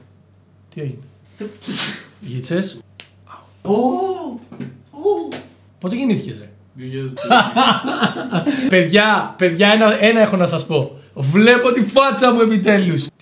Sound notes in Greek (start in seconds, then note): 1.4 φτέρνισμα